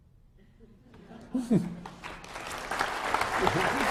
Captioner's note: applause